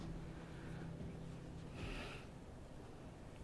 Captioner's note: Serena exhales